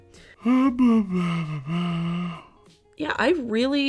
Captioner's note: murmuring